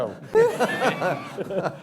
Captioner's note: laughter